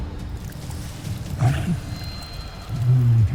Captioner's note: growls